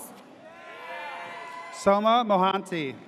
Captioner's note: audience cheers